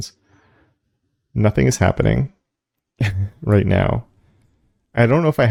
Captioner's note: laugh